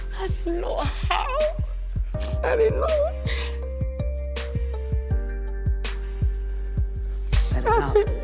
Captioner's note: crying